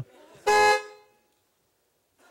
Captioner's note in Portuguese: buzina